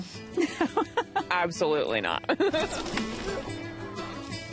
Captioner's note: laughs